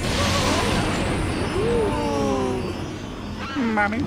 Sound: nervous oohs and ahs

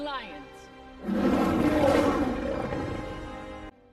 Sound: roars

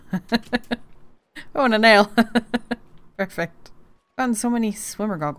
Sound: laughs; laughing

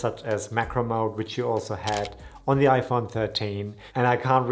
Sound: camera shutters click

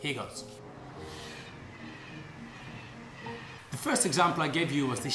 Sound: train whizzing

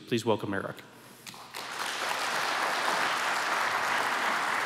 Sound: applause

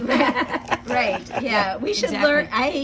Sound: laughs

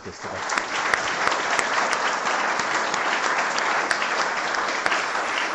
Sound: applause

